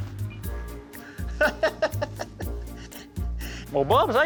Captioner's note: laughs